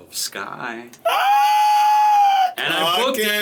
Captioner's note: squealing